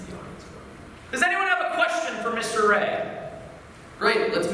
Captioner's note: shouting